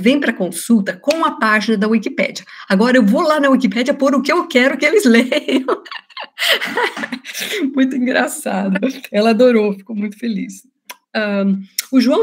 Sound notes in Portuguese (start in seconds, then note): 5.2 risos